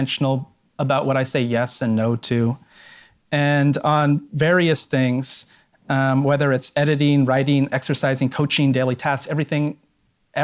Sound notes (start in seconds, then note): none